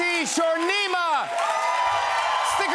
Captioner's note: cheers and applause